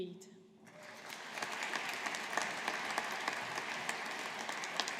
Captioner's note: audience applauding